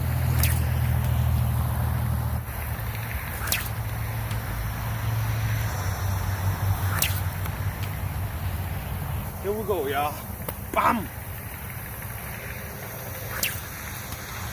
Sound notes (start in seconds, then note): 0.2 sling whips; 2.4 sling whips; 2.4 splash; 6.7 sling whips; 6.8 splash; 13.0 sling whips; 13.1 splash